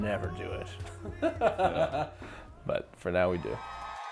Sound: laughs

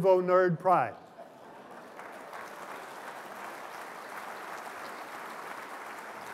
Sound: applause

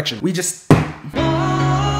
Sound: slam

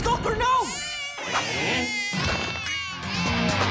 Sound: crying

